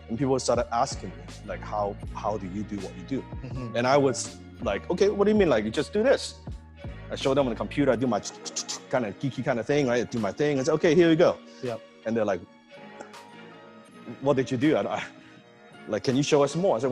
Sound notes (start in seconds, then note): 8.3 spoken typing noise